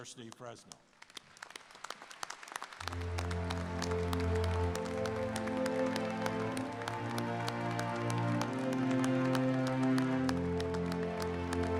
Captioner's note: applause